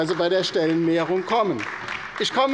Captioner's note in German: Beifall bei der LINKEN